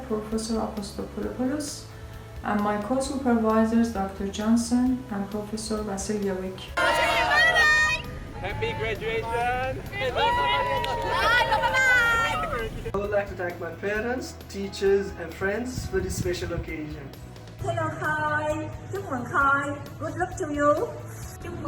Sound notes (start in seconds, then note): 10.0 all cheering; 18.5 speaking foreign language